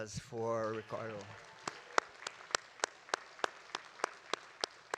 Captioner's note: audience applauding